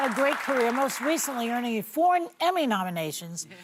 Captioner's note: applause